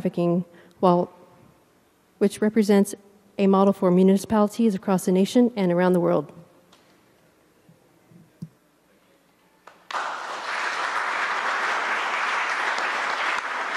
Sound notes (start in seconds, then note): 8.1 applause